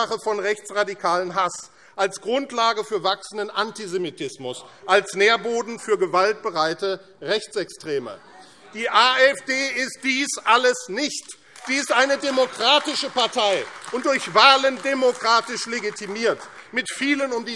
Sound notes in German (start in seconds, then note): 8.1 Zurufe; 11.2 Beifall AfD